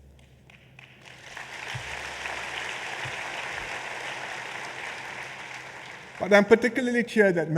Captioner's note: applause